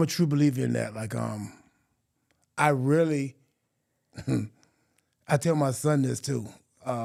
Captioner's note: laughing